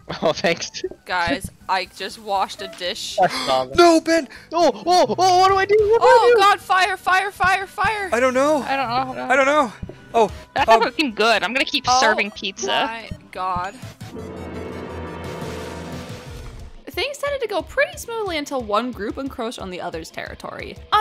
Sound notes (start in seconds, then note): 3.2 gasp